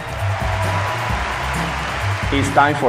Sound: applause

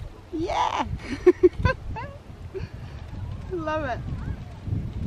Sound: laughs

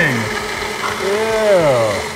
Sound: le blender blending more

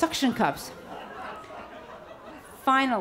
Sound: audience laughs

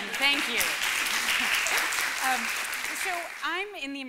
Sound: applause

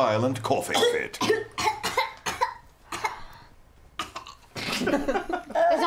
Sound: coughing

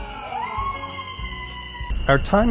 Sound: group cheering

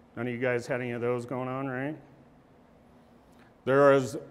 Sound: none

